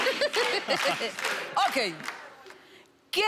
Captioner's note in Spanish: Risas